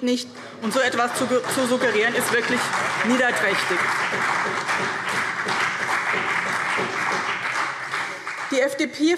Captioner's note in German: Beifall